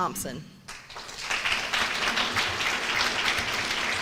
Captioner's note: applause